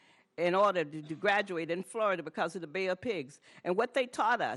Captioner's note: none